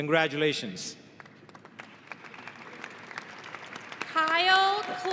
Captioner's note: audience applauding